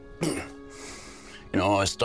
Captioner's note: clears throat